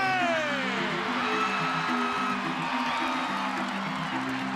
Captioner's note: audience cheering